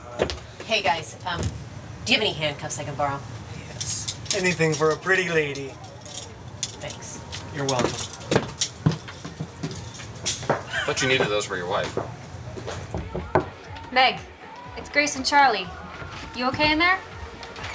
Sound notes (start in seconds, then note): 12.9 door knocks